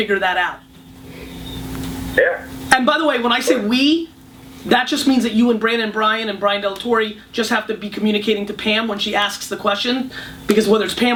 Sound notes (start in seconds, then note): 2.3 voiceover